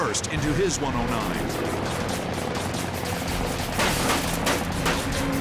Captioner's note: guns firing